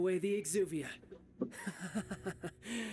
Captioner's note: laughing